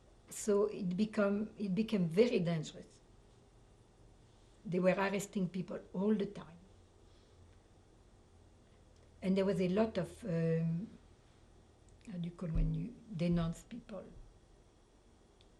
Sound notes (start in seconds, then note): 6.6 pauses for 3 seconds